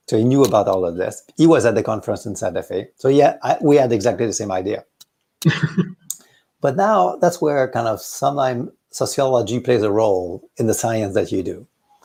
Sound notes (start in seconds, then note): 5.4 laughs